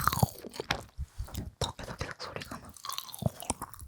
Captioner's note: keeps making a sound from the jaw